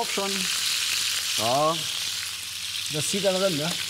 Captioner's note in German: Anbratgeräusche